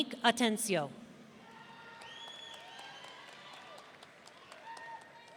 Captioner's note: audience cheering